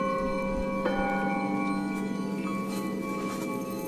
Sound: bells chiming

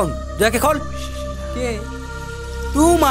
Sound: in Hindi

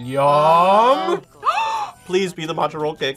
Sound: gasps

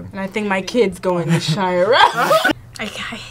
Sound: laughs

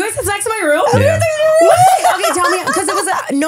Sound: laughing

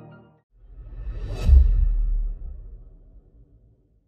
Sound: echo boom

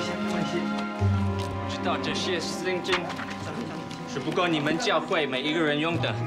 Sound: speaking foreign language

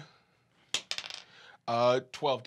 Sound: die clacks

